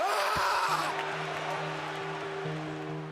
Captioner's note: Styles shouts; light music